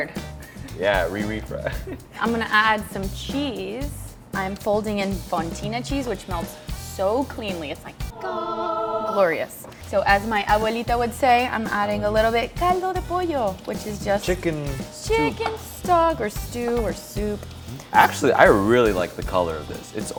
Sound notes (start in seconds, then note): 8.0 angelic hums; 10.4 speaking foreign language; 12.5 speaking foreign language